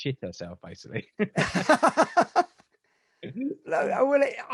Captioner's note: laugh